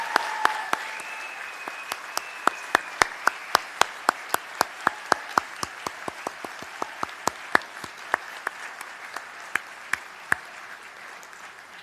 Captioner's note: cheers and applause